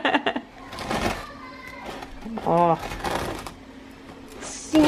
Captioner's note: laughing; cutting